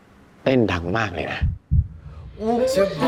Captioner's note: beating so loud